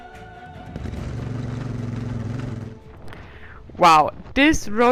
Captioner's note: motorcycle engine revving